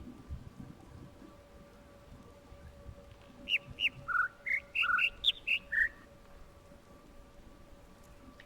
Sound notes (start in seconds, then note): 3.4 overlapping birds chirping, ˥ ˥ ˩ ˧ ˩